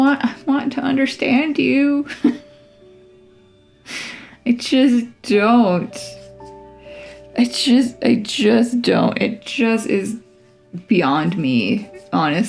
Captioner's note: laugh